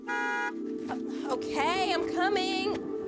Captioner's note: car horn